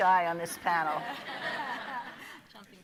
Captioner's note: audience laughing